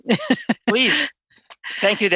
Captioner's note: laughter